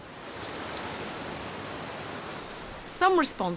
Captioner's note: water flowing